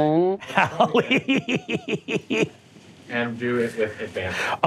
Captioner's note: laughing